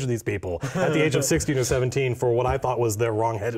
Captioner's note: chuckles